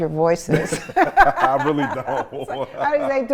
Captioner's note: laughs